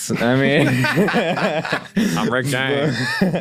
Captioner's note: group laughs